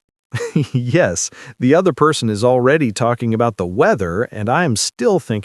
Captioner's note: laughs